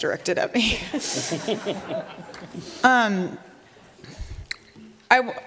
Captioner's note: laughter